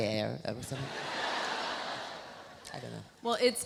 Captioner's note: audience laughs